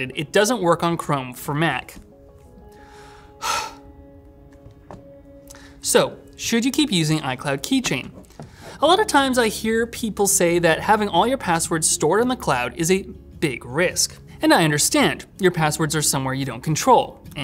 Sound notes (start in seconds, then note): 2.8 sighs